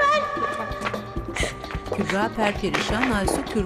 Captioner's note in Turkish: Ağlama sesi